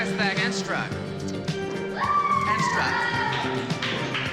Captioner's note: whoops